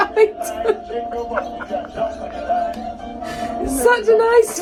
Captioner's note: laughing